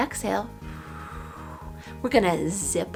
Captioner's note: exhales